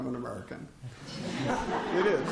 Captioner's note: laughter